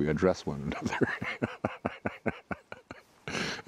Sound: laughing

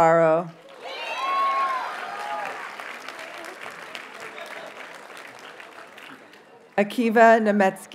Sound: audience cheers and applauds

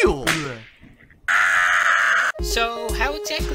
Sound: Oodle screams in eldritch horror

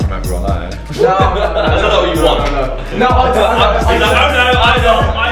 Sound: loud arguing and laughing

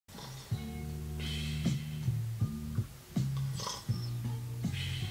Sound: snoring in the distance; music from previous episode playing in the background

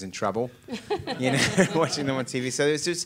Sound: laughing

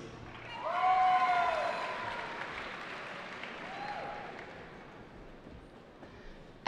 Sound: cheering

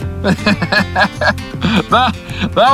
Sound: laughs

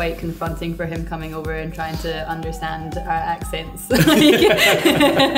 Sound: laughs

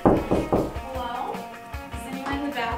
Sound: knocking

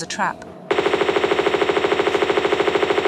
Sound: bratatata

